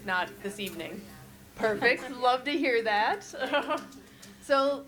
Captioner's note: chuckles